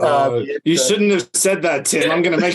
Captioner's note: laughs